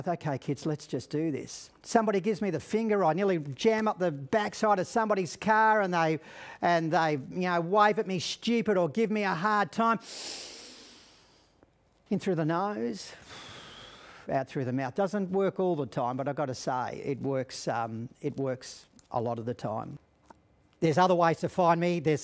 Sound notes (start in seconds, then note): 10.0 inhales deeply; 13.2 exhales deeply